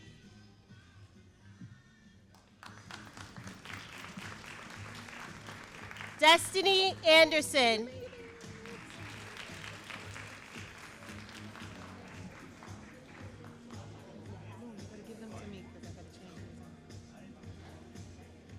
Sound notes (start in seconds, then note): 2.7 all applauding; 8.7 all applauding